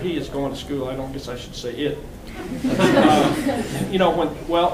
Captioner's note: laughing